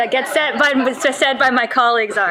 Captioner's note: audience laughing